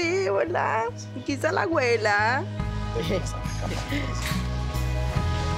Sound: foreign language

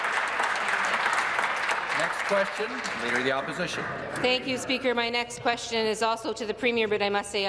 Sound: applause

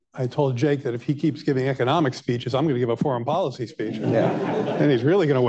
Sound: laughter

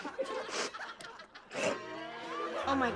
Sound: sniffing

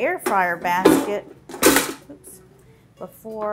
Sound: metal clanging

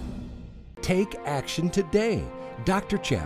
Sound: voiceover

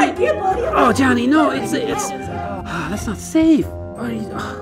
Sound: sighs

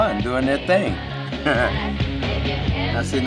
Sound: chuckling

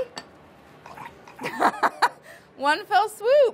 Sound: laughs

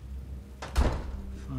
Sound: door closing

